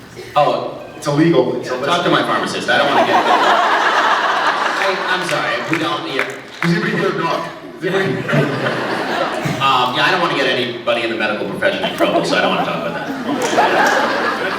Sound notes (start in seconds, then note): 2.2 laughs; 7.2 laughs; 7.8 scattered laughs; 13.2 laughs